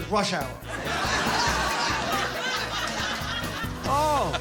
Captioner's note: laughter